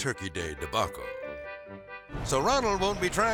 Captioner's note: melodic music; fryer igniting